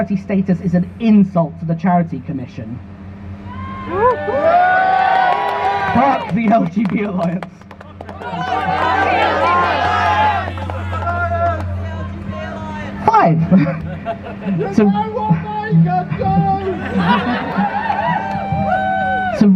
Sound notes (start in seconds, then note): 5.0 crowd Cheers; 8.2 crowd Chants